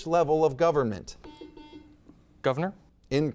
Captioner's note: buzzer beeps